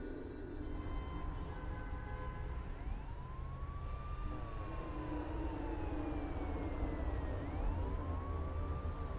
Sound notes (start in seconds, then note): 4.4 siren wailing in the distance